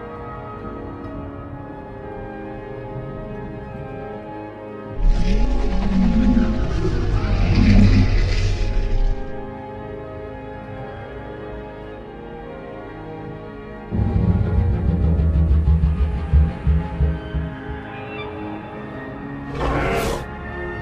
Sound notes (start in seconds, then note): 5.0 mosasaurus Sounds